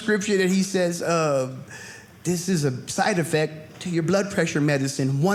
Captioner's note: none